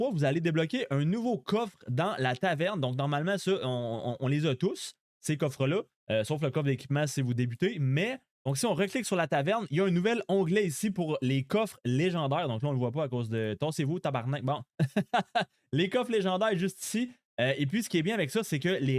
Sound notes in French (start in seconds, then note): 14.8 rires